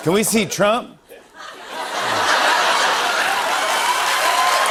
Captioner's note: laughter; cheers and applause